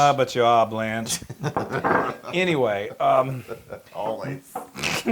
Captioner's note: laugh